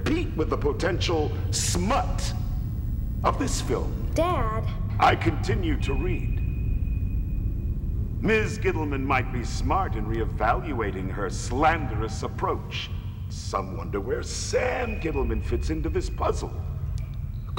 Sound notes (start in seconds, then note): none